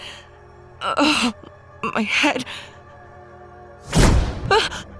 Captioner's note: groans; Sarah gasps; dramatic scary music